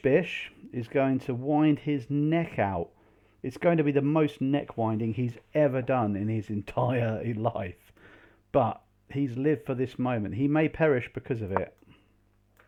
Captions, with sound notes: Bish-Bish is going to wind his neck out. It's going to be the most neck-winding he's ever done in his entire life. (laughs) But, he's lived for this moment. He may perish because of it.